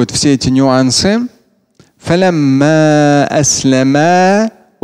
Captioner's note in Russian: Говорит на арабском